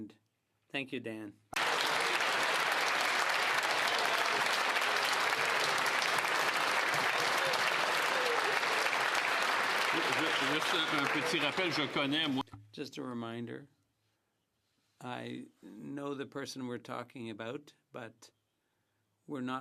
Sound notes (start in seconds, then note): 9.5 some Applause